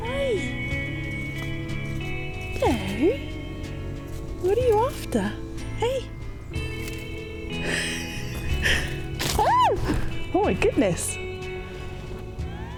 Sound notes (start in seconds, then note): 9.5 screech